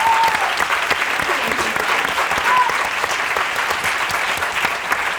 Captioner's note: audience applauding; cheering and clapping